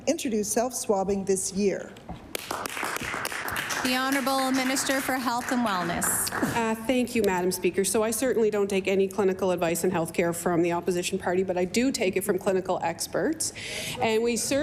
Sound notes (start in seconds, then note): 5.7 applause